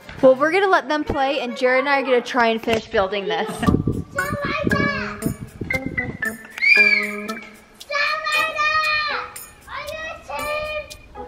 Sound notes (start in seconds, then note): 3.4 quirky music; 6.4 whistle; 9.8 yells